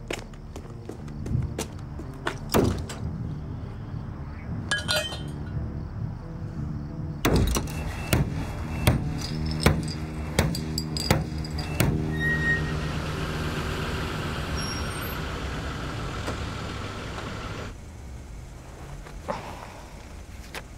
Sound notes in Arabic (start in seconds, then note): 2.4 قعقعة الأنابيب المعدنية; 9.7 هدير السيارة; 11.6 صراخ الفرامل للتوقف